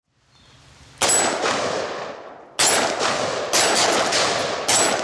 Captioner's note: firearms blasting